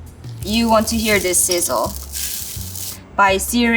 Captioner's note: food sizzling